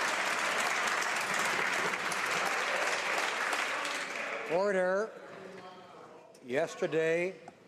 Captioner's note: some Applause